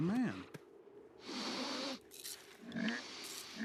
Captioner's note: sniffs